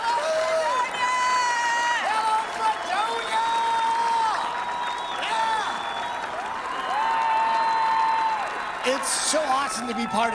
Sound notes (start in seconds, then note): 4.3 audience cheering and clapping